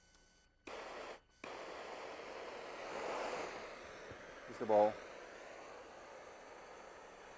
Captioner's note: flame whooshing